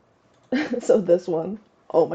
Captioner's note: chuckles